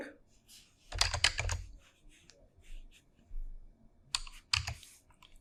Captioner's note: keyboard keys clicking